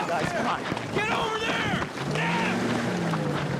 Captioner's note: engine revving